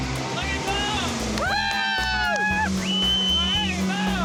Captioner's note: both cheering